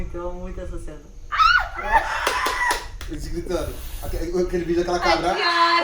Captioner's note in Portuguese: grito